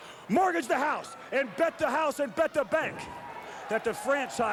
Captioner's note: chuckles